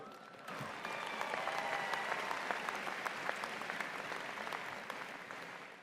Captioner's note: applause